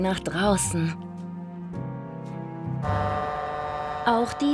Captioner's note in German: Hupen